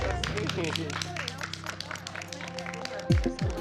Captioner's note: applause